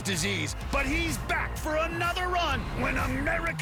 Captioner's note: cheers and applause